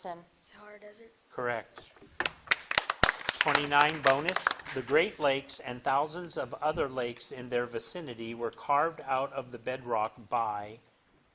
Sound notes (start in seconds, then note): 2.0 audience applauding